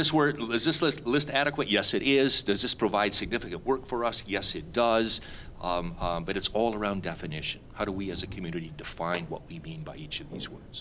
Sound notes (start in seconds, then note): none